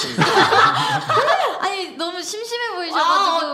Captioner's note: laughter